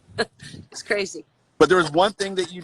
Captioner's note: laughs